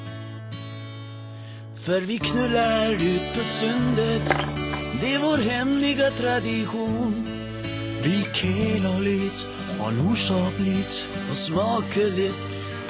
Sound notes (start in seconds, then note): 3.5 bowl and figurines sliding; 5.6 dog feet clicking on wood flooring